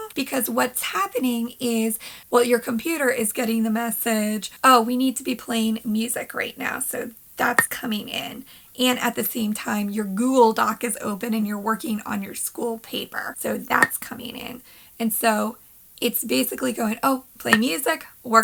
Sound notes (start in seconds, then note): 8.4 pop; 13.8 pop; 17.5 pop